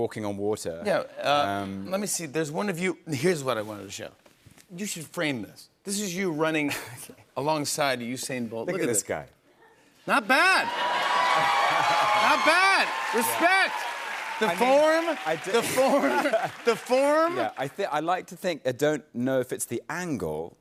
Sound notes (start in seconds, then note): 5.6 chuckling; 9.9 cheers and applause; 10.9 laughs